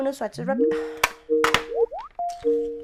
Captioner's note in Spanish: Sonido de llamada